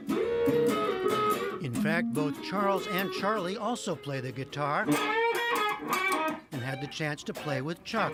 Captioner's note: voice-over